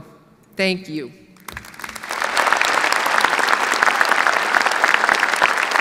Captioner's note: audience applauds